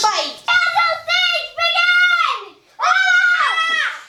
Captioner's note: children yelling